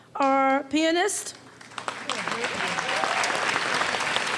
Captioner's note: applause